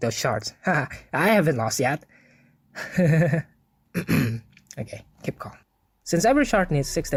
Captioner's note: ekhem